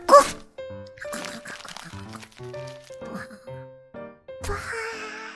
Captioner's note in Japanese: 食べている音